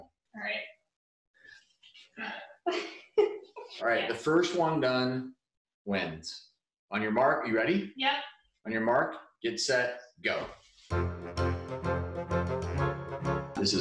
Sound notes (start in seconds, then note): 2.7 laughing; 10.8 fun music